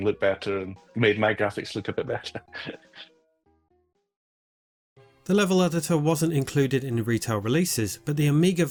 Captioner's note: laughs